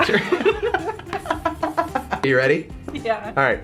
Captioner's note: laughing